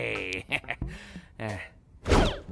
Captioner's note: chuckles